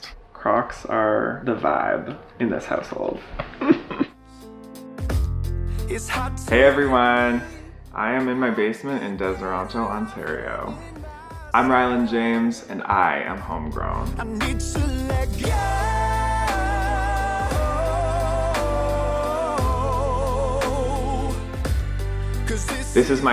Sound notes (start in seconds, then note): 3.4 laughs